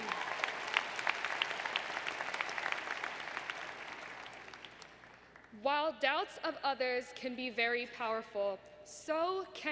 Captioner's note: applause